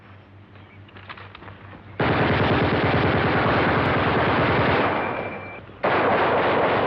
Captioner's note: gunshots